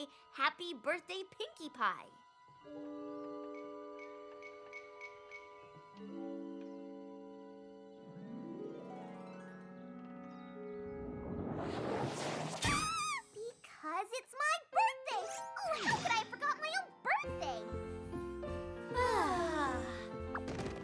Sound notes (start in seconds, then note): 11.1 whoosh!; 12.6 squeak!; 19.0 all sigh